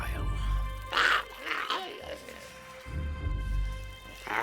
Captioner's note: Giree grumbles